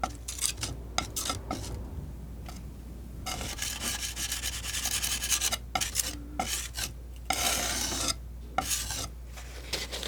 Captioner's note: scratching